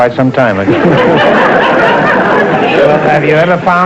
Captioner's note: audience laughter